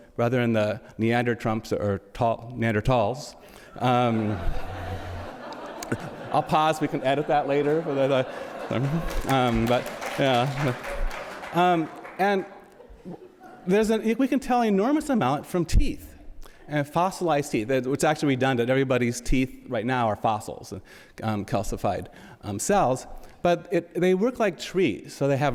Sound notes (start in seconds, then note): 3.7 audience laughs; 9.4 audience applauds